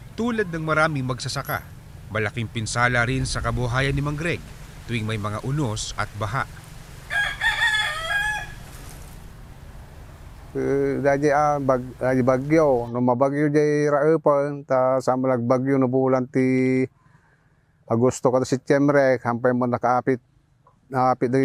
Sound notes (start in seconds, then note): 7.0 rooster crows